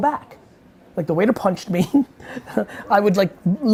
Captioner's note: laughing